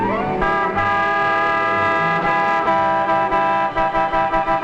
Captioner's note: horns honking